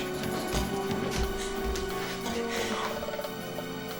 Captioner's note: footsteps thudding; dramatic music